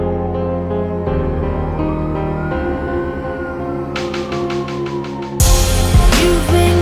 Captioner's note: Siren